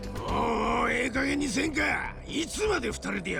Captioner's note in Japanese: うめき声